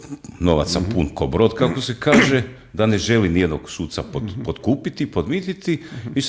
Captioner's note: coughs